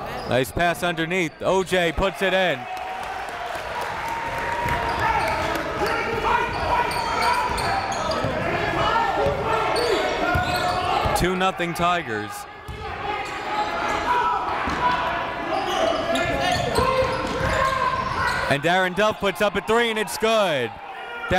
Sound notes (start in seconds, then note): 3.0 crowd cheering; 5.3 coaches yelling; 5.3 crowd talking